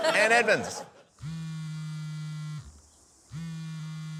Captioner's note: phone buzzes